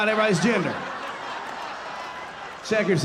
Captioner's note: audience laughing